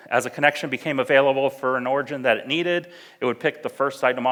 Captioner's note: none